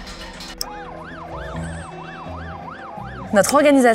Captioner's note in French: sirènes